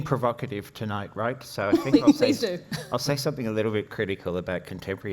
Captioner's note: laughs